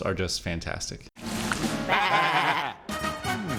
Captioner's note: munch munch